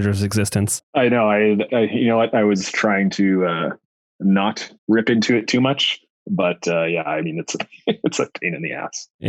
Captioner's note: laughs